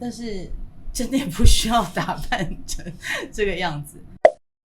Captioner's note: laughing